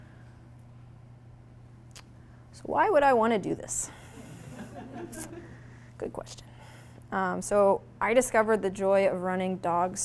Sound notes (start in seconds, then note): 4.2 audience laughing